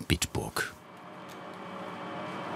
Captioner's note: machine whirring